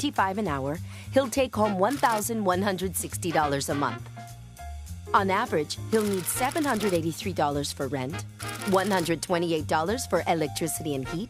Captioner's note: buzz